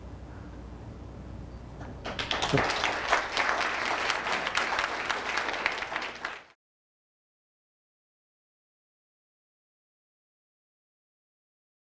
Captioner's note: applause